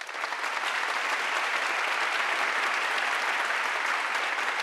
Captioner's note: audience applauding